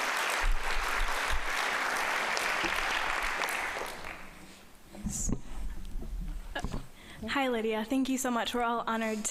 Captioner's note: applause